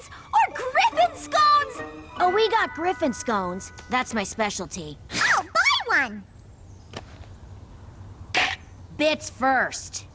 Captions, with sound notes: Or Griffon Scones! Oh, we got Griffon Scones. That's my specialty. I'll buy one! [chomp] Bits first.